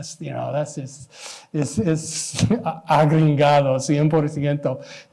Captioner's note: speaking spanish